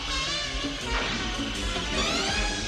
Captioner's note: swoosh